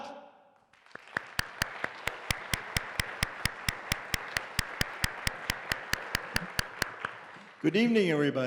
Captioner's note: applause